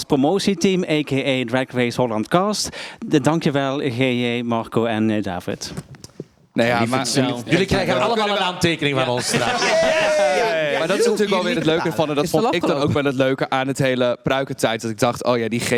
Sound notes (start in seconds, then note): 9.0 sounds of joy